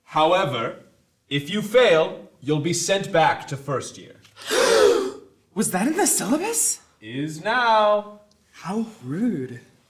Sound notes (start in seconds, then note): 4.4 gasps